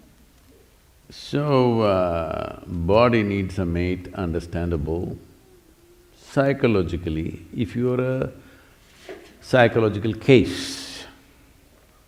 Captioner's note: laughs